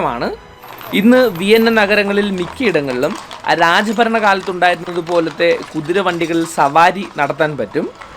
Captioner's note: horse-drawn carriage